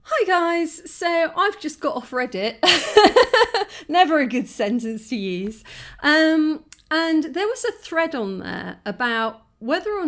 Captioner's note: chuckling